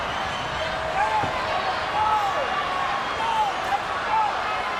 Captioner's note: ref yelling